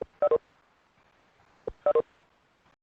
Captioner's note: beeping